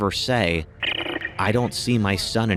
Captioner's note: radio chirps